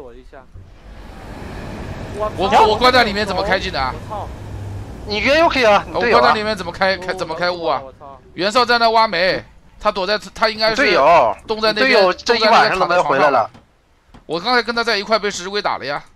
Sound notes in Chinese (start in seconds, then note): 1.9 歇斯底里; 3.3 歇斯底里; 7.0 歇斯底里